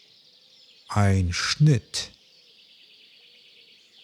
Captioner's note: german